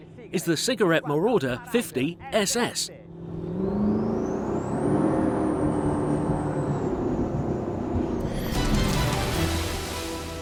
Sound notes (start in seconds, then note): 3.1 engine roars